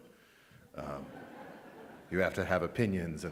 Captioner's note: audience laughs